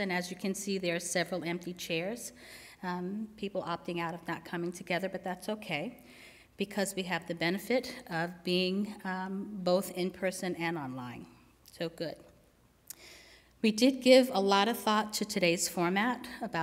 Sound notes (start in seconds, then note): none